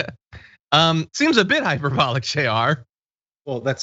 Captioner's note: laugh; laugh